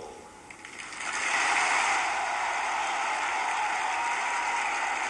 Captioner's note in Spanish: aplausos